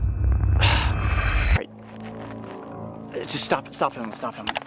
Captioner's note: Coyote gasping